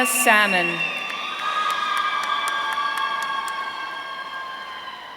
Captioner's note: audience cheering